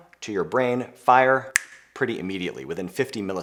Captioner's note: fingers snapping